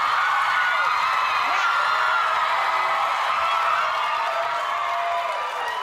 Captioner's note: cheers and applause